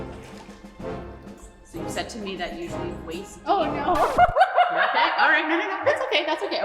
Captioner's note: nervous laughter